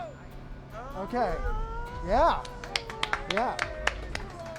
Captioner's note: applause